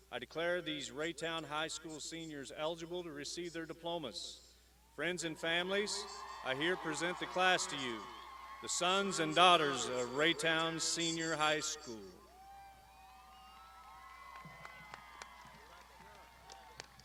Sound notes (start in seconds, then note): 5.5 crowd shouts; 12.9 crowd applauding